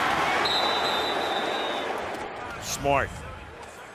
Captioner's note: whistle